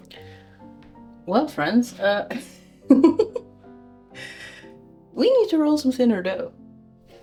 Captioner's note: laughs